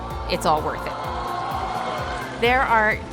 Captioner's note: cheering